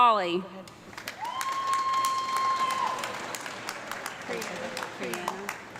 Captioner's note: audience clapping and cheering